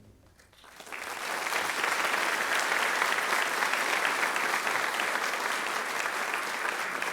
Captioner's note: applause